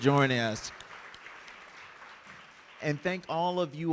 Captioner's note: audience clapping